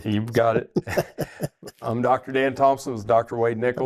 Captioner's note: laughs